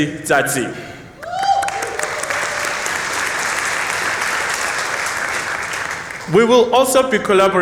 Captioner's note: applause